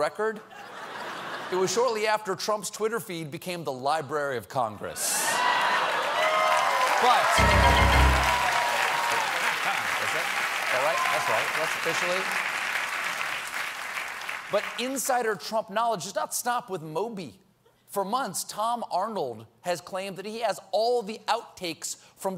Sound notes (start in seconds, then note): 5.2 cheers and applause